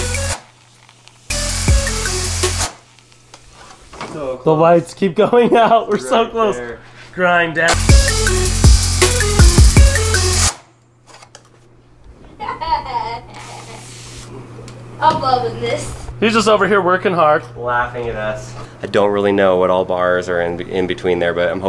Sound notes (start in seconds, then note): 7.7 hip-hop music; 7.7 electric whirring; 12.4 laughing